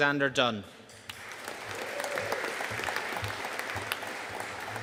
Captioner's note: audience applauding